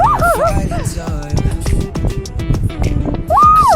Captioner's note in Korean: 꺄하